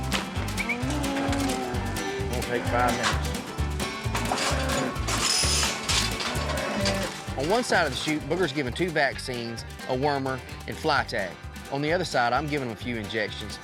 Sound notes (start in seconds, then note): 5.3 clanking sound